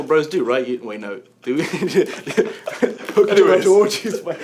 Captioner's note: laughs